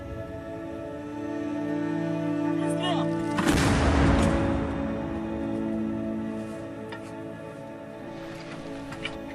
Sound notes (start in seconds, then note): 2.7 speaking Ukrainian; 3.4 explosions